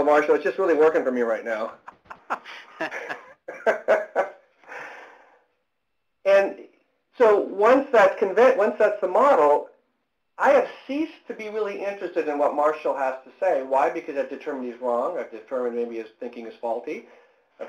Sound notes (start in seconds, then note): 1.8 laughter